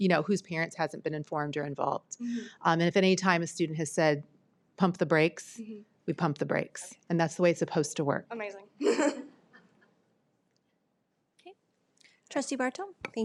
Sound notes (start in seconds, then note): 8.8 laughs